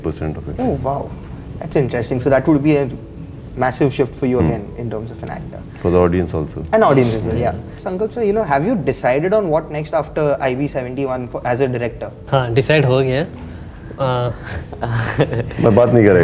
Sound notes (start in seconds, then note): 14.3 chuckles